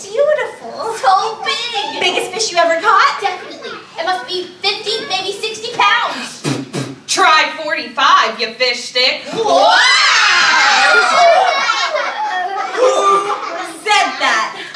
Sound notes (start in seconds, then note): 10.5 audience laughing